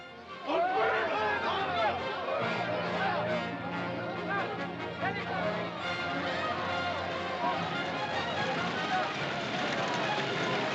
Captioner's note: shouting & commotion; dramatic music; cart rattling; dramatic music